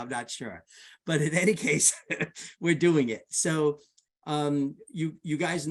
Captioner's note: laughs